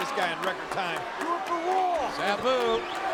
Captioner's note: spectators applauding